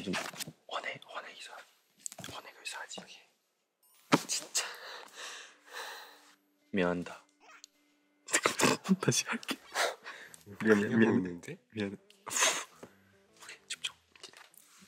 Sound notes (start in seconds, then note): 4.6 breathes heavily; 8.4 snorts